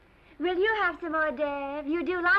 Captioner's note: silly accent